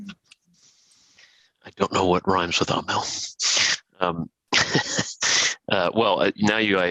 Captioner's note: laughter